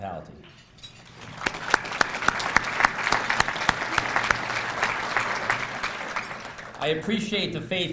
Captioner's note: applause